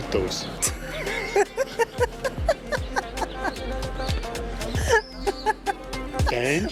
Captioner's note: laughs; in Portuguese